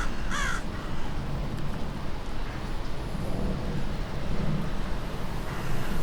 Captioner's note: ravens cawing; wind blowing